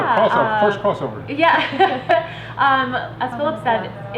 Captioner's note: laughs